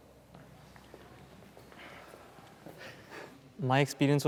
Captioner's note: footsteps thudding